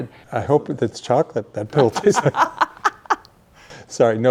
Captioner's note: laughing